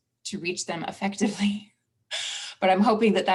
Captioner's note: laughs